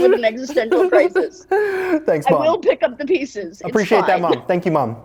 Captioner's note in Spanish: risas